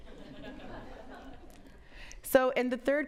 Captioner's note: audience laughs